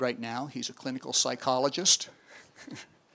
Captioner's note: chuckles